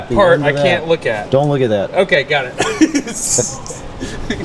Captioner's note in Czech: Both laugh